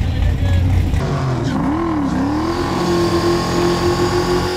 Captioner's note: engine revving